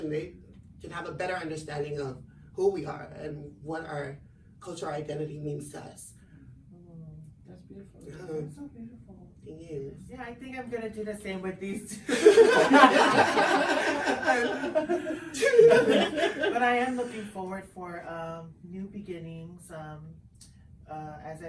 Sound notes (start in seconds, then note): 12.1 everyone laughs